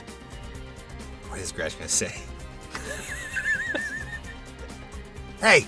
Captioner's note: chuckles